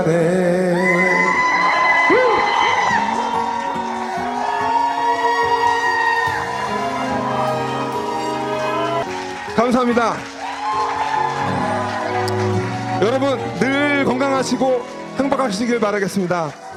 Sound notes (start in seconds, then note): 1.0 cheers